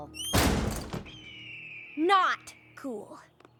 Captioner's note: shrieks